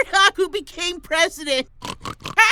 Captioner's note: laughs